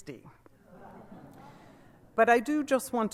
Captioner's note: laughter